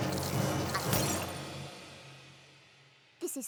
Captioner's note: glass shatters